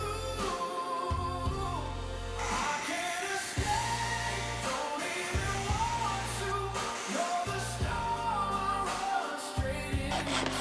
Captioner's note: metal cutting